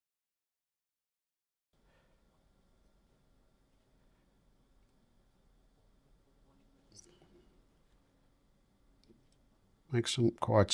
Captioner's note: silence